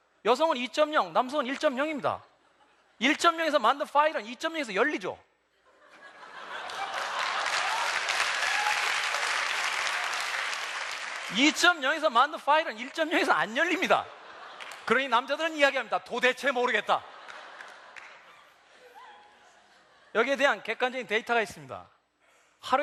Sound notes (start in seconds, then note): 8.2 applause